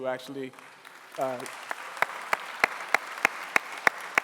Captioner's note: clapping